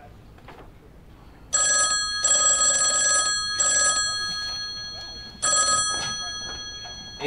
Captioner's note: phone ringing